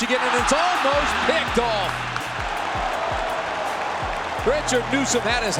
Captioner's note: crowd cheering